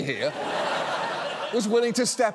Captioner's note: studio audience laughs